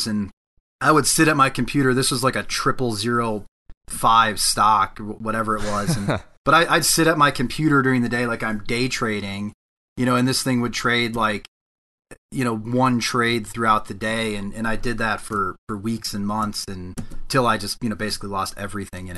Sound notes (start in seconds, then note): 5.6 chuckles